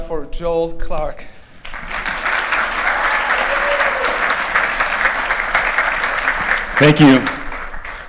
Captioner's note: applause